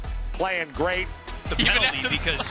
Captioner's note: laughing